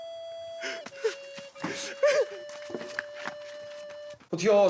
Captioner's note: sobs in ultimate defeat